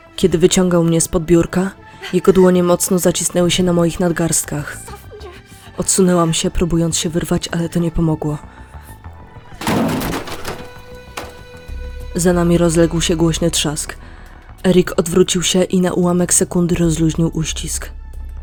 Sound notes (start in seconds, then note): 9.6 thump!